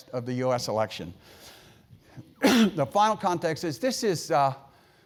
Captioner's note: cough